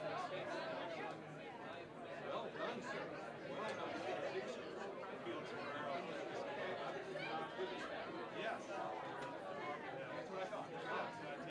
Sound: general chatter

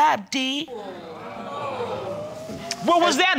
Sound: all gasping

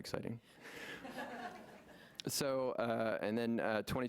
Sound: laughing

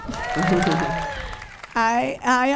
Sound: audience cheering

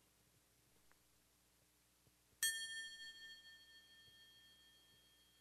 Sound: ringing of the bell

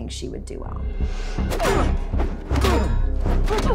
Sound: grunting

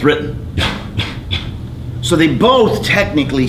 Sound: thudding

